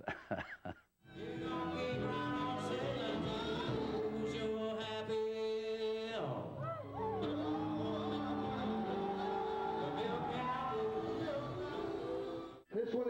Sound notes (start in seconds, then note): 0.2 laughs; 6.6 crowd cheering; 6.9 jazz music playing